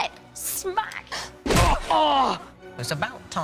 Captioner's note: grunts